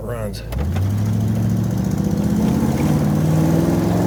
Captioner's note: engine roaring